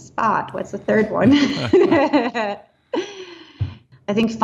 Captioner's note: laughing